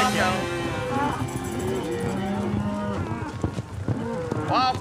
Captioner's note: cows moo; hooves beating